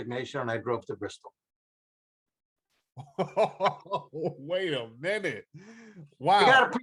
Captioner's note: baffled laughter